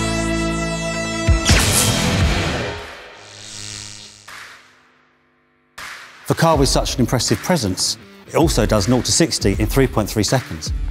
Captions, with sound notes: (electricity buzzing) For a car with such an impressive presence, it also does naught to 60 in 3.3 seconds.